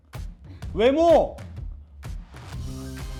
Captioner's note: gasp